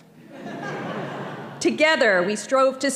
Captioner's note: audience laughing